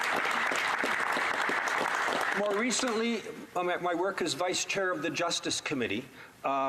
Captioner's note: some Applause